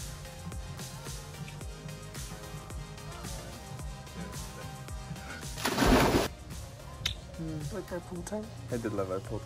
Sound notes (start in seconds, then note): 5.5 water splashing; 7.0 kissing